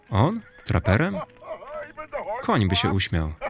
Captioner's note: laughs